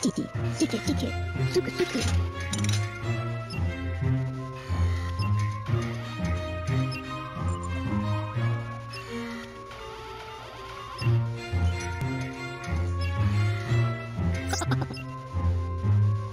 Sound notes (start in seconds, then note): 14.5 cough